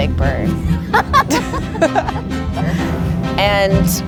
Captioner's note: laughing